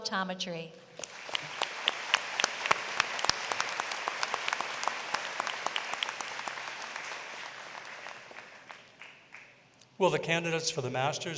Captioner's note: applause